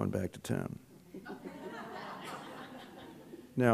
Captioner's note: laughter